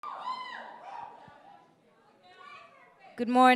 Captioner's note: cheering